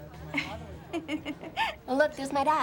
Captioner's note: chuckling